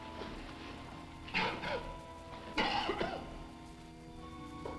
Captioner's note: Quent coughing